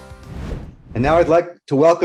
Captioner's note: whooshing sounds